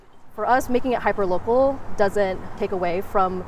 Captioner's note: none